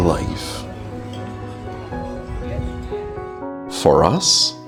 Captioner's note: people chattering